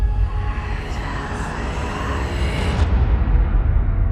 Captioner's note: frantic whispering